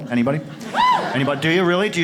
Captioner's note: audience cheers